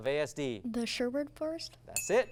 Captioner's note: ding